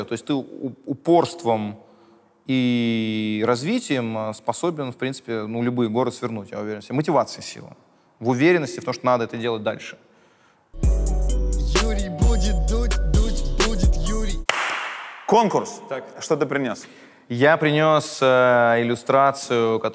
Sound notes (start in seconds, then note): 10.7 title card music; 14.4 claps hands